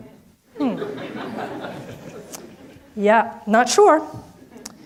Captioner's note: audience laughs